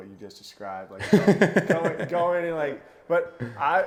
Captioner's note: laughing